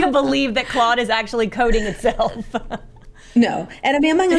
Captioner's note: laughs